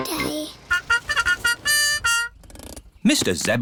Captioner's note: horn tooting